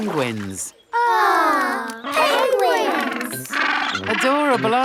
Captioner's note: penguins chatter